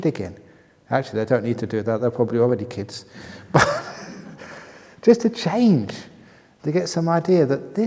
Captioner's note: laughter